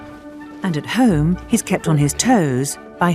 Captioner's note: voiceover